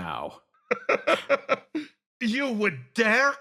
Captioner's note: laugh